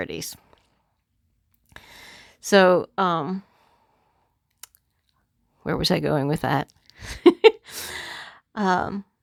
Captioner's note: chuckle